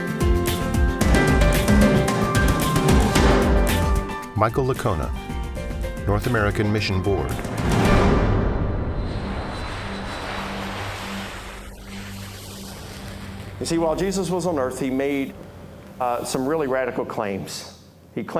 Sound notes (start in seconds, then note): 8.8 airplane roaring